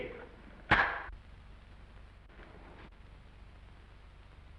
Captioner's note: clapperboard slams